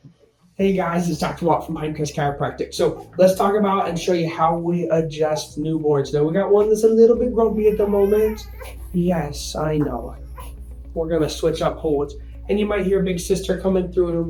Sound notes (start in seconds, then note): 7.2 baby crying